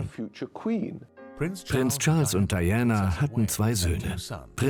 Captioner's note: voiceover